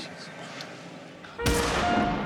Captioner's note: shotgun blast